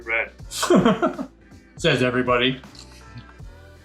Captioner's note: laughs